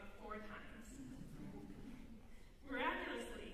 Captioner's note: laughter